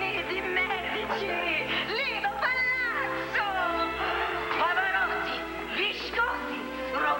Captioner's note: italian accent